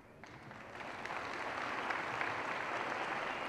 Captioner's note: applause